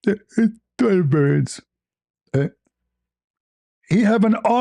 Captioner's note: berdehem